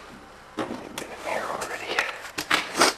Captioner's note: whispers